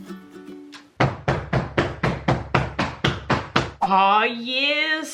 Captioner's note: relaxing guitar music; mold banging